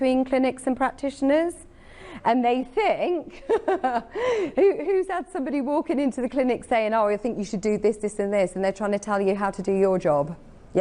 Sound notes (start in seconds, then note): 3.3 giggles